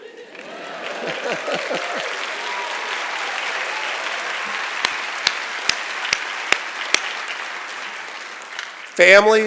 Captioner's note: laughter, Cheering, and Applause